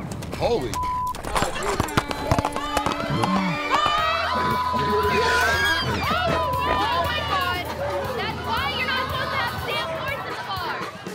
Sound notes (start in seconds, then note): 0.7 beep; 1.2 horse braying